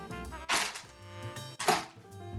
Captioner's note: crinkling